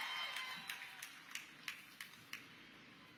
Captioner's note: audience cheers